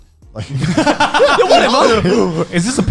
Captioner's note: laughing